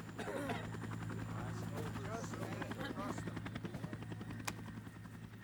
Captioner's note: helicopter thrumming